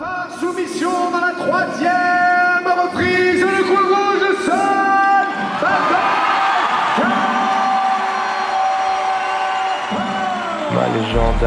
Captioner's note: applause